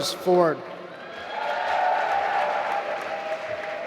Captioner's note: applause